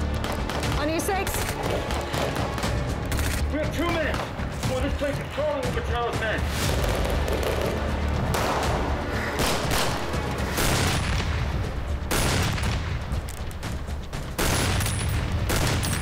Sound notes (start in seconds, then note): 6.0 dramatic music; 6.0 guns banging